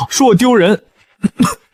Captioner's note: cough